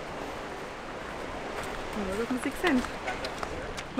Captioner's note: in Swiss German